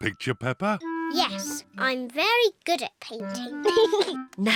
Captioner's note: giggles